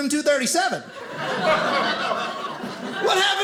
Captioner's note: audience laughing